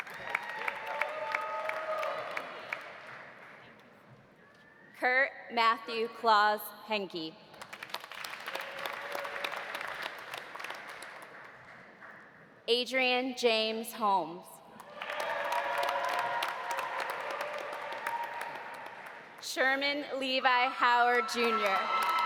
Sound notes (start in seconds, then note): 0.0 audience cheering; 0.0 audience applauding; 7.6 audience applauding; 8.6 audience cheering; 14.8 audience applauding; 14.9 audience cheering; 21.1 audience cheering; 21.4 audience applauding